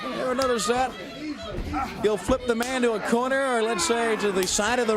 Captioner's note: crowd cheering